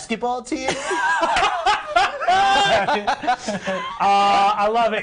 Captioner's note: laughing